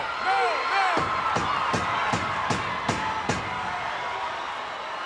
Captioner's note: Cornett pounding mat